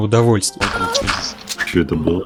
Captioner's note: moan